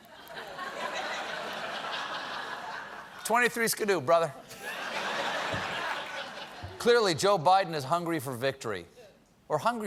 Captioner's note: laughter